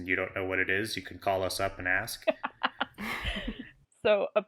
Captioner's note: laughs